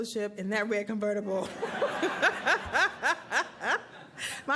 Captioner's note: laughter